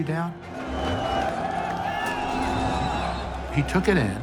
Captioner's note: cheering and yelling